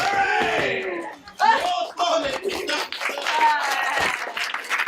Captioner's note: shouting and clapping